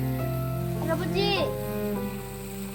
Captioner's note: speaking in Korean